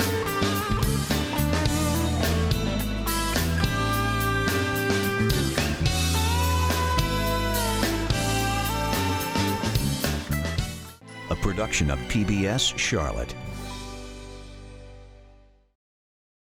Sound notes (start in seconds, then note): 13.7 chime